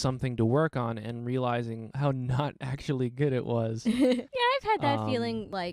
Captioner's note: laughing